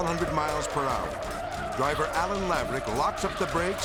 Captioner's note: car skidding